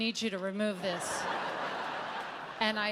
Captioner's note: audience laughs